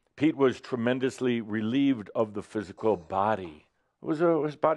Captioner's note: none